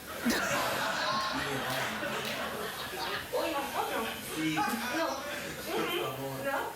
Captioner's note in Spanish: risas